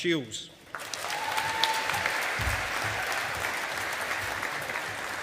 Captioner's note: audience applauding